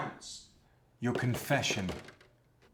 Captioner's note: loud knocking at the door